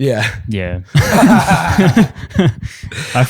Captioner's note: laughter